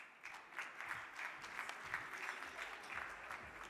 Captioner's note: crowd clapping